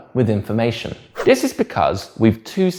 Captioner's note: page whips